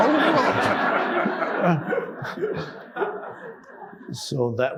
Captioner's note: audience laughing